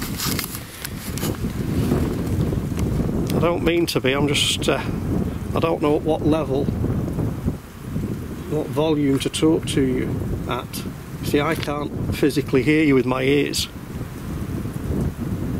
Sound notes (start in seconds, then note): none